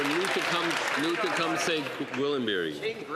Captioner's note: some Applause